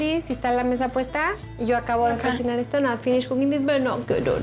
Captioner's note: speaking spanish